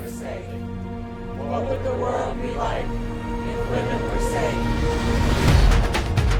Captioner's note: chant